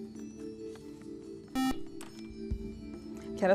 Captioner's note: buzzer